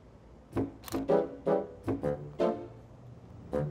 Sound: playful music; camera clicks; playful music

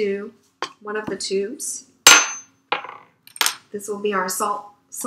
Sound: clattering noises

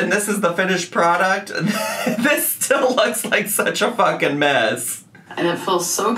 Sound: laughing

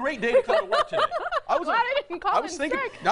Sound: laughing

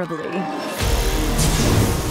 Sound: woosh

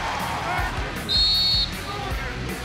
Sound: whistle

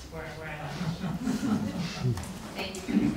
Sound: audience laughing

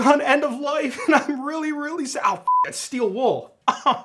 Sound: beeps

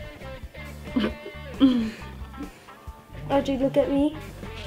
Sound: laughs

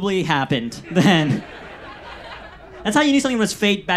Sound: audience laughs

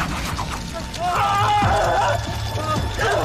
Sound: Jake screams wildly

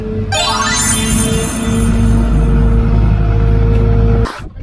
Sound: whimsical chime

